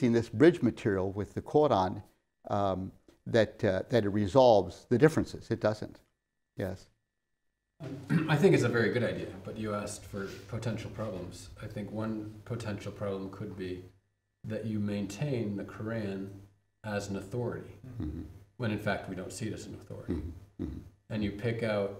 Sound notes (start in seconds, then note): 7.9 clears throat